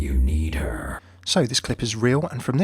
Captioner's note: voiceover